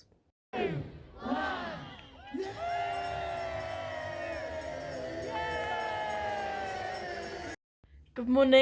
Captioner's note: cheers